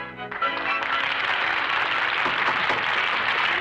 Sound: audience applauds; knocking on door

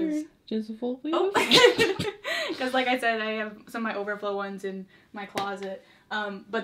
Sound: both laugh

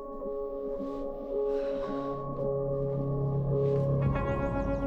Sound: exhales

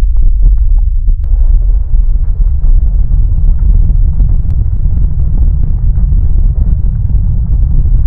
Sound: deep rumbling sound increases in crescendo and frequency

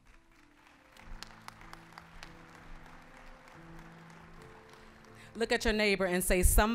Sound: applause

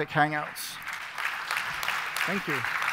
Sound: appaluse

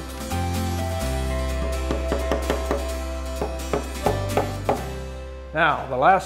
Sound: upbeat music; wood hammering

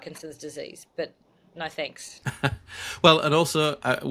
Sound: laughs

